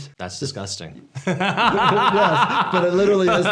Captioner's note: laughs